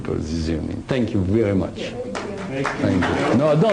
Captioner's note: applause